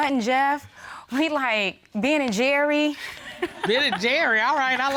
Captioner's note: chuckles